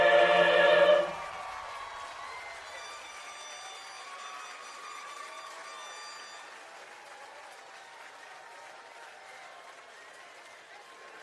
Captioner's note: cheering and Applause